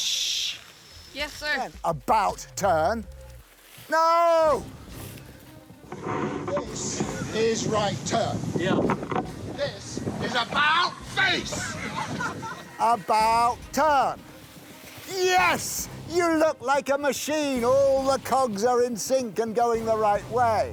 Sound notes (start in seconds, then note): 8.6 yells; 11.4 laughter